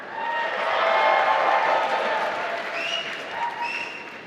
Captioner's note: applause